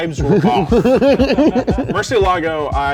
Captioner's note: laughter